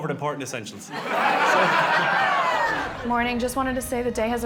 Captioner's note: people laughing